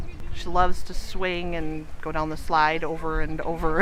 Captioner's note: laughs